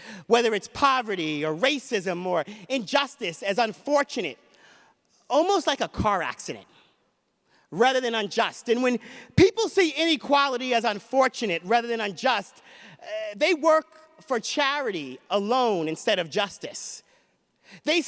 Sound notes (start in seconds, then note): none